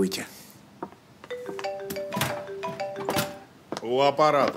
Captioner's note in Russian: Звонок мобильного телефона